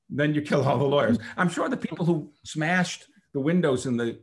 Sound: chuckles

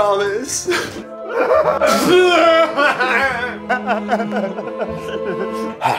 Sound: melodramatic sobbing

